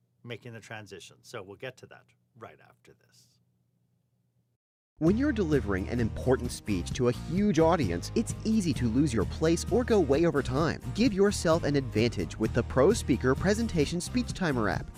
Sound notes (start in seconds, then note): 5.0 voiceover